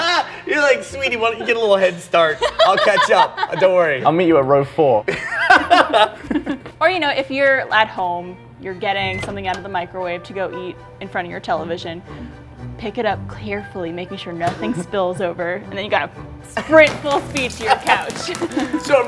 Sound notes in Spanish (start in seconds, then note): 5.0 se ríen